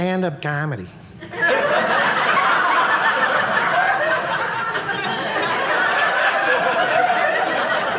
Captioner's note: audience laughing